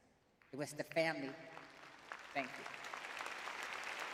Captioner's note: audience claps